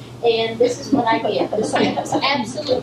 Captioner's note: laughter from audience